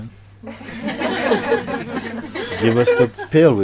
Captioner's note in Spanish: Risas